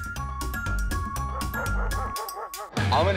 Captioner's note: dogs barking